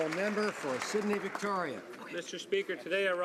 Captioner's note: some Applause